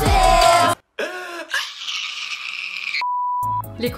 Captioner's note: fangirling